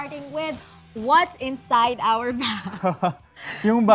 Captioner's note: chuckles